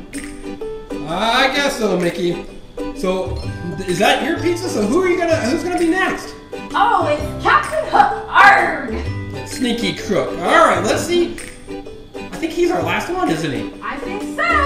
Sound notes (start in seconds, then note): 0.3 voiceover; 8.6 voiceover